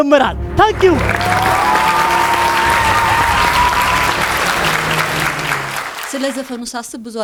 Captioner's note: applause and scream